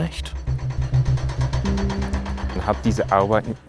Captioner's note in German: Klopfen